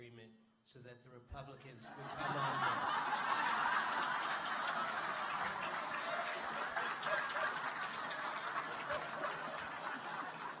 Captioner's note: laughter and applause